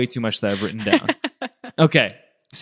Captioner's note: laughs